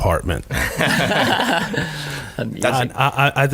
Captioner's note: laughing